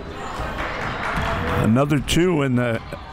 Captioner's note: crowd clapping